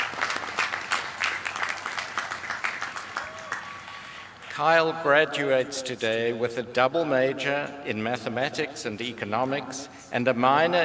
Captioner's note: applause